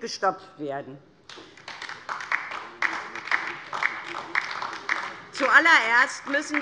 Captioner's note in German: Beifall DIE LINKE